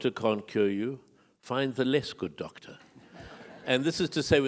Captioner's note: audience laughing